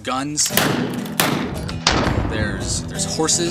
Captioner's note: gun fires